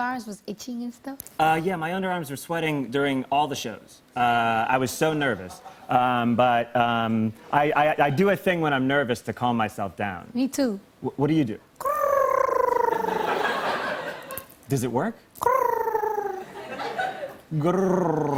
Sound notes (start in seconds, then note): 11.8 trilling; 15.4 trills